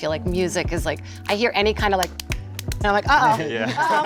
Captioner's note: rhythmic clapping